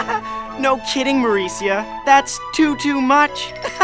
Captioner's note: laugh; laugh